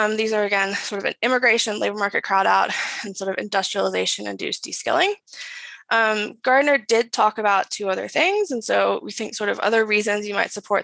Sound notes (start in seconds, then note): none